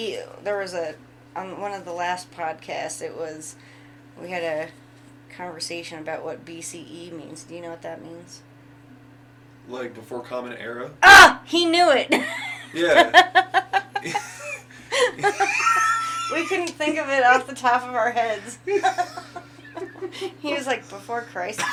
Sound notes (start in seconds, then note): 12.2 laughs; 18.9 laughing